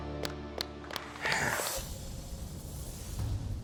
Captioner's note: exhales